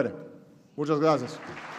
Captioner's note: applause